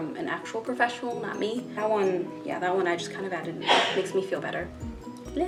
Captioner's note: sneeze